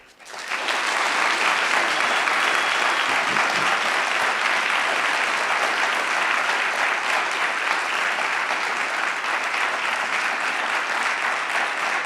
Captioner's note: applause